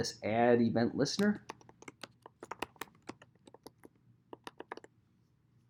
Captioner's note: keyboard clacking